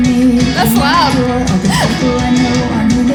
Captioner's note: laughing